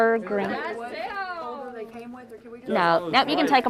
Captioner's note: group chattering